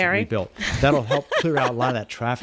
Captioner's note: Hablando ingl\s